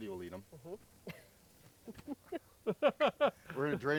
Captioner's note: laughing